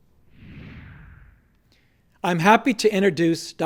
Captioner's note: air whooshing